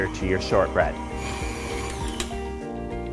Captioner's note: mixer whirring; bright music